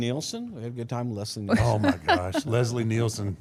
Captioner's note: laughs